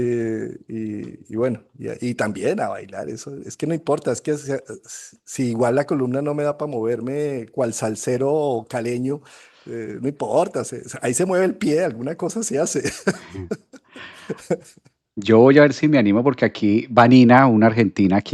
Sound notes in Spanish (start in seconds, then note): 12.7 risas